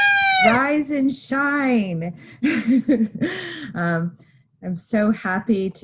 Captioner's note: rooster crowing